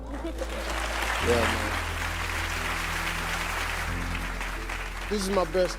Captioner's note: audience clapping